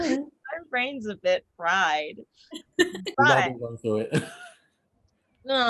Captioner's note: Reign laughs